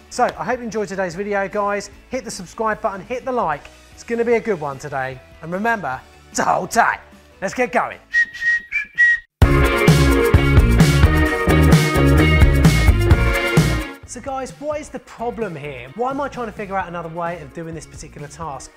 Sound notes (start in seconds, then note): 8.0 whistles; 9.4 upbeat music